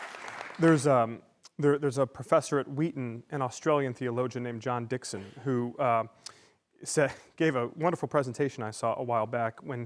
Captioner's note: applause